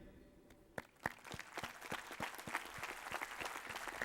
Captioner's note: applause